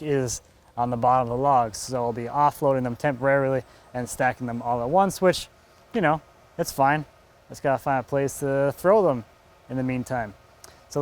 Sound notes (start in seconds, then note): none